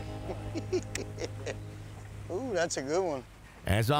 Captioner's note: laughs